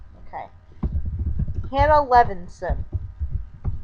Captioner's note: typing